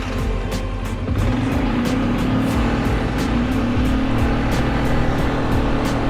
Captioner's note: dramatic music; motor rumbles